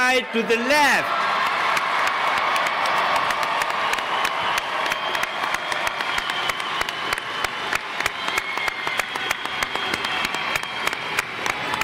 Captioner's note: applause